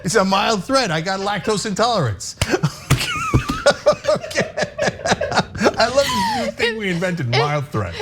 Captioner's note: laugh